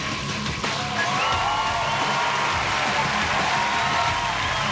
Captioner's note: cheering and applause